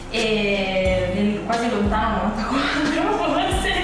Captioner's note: laughing